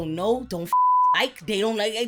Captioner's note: beep